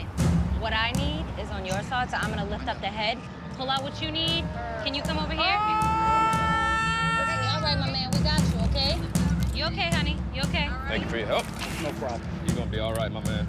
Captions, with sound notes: What I need is on your side, so I'm going to lift up the head. Pull out what you need. Can you come over here? [screaming] All right, my man. We got you, OK? You OK, honey. You OK. Thank you for your help. No problem. You're going to be all right, my man.